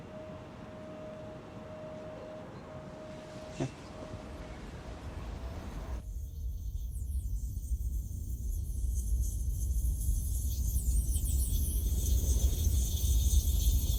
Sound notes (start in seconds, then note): 8.4 buzzing sound